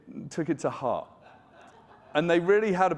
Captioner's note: audience laughing